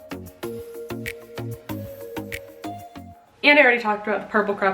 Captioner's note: finger snaps